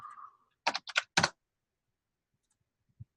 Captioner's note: typing on keyboard